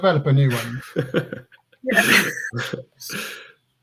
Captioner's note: laughs